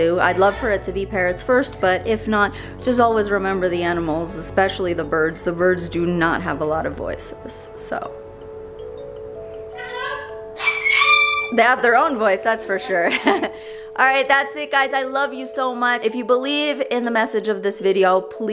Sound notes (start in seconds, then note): 10.5 bird squawking loudly; 12.9 chuckles lightly